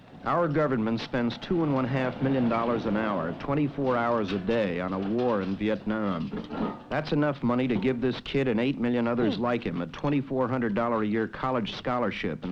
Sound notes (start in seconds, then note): 0.0 motor humming; 4.3 truck clattering; 6.6 tanks scraping; 9.2 man grunting